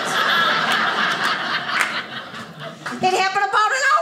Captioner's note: audience laughing